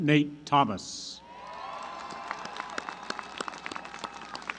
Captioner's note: applause